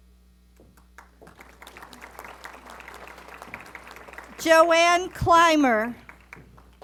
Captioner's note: applause